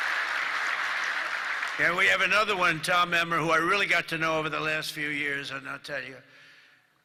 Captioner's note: applause